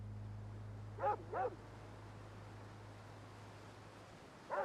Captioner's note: dog barking